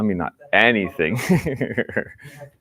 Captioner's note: laughs